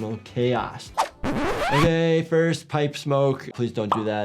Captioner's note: record scratch